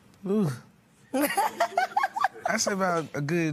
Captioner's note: laughs